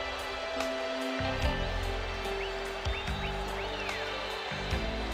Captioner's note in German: beifall